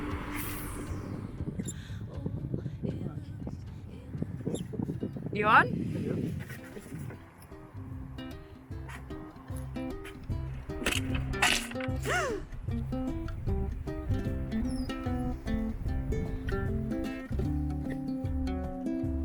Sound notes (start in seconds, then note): 0.1 fishing reel whizzes; 10.8 squishes; 12.0 gasps